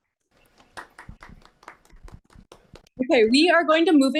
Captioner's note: applause